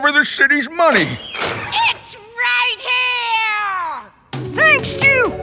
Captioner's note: doors opening